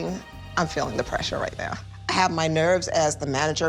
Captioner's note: none